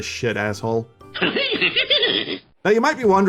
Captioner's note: demented laugh